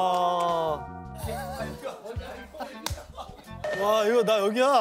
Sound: who bursts out laughing

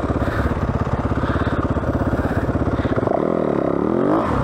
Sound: engine revving

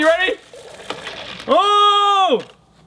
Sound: Mentos plopping into Coke

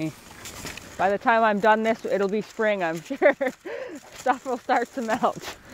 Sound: laughs

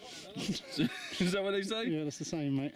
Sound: laughs

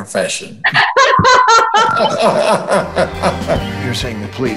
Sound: laughing

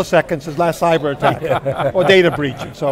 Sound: laughing

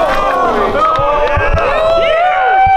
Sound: crowd

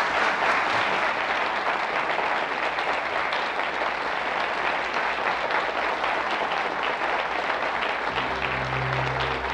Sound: applause

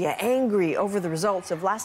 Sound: cheers and Applause

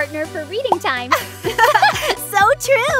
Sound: both laugh

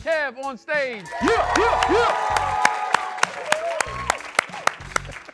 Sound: audience applause

